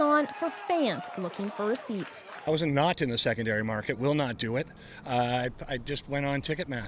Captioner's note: cheers and Applause